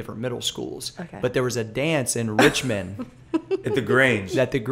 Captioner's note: laughter